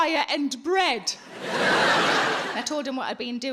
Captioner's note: audience laughing